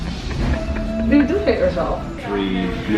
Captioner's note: laughing